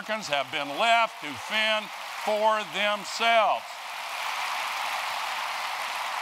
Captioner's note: applause